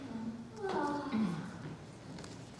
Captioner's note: yawns